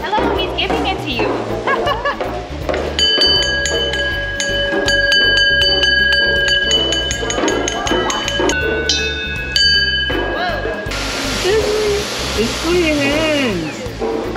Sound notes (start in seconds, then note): 1.5 laughs; 3.0 glass chimes; 10.2 dryer whooshes